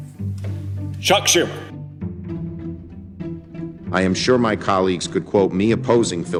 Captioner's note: soundbite of archived recording